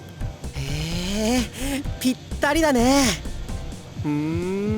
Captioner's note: interested hum